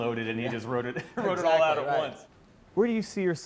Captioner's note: laughs